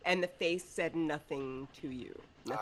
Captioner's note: none